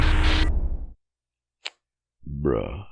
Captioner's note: display shuts down